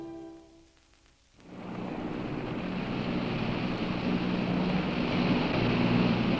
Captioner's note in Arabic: صوت محرك القارب البعيد